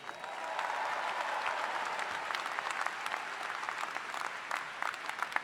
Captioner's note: all applauding